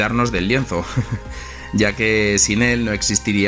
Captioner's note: haha